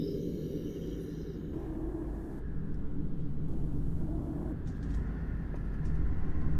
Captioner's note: heavy, distorted wind